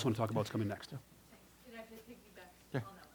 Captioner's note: voiceover